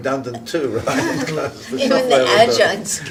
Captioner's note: audience laughing